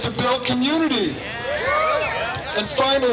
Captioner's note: cheers